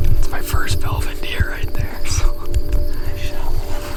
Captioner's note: chuckles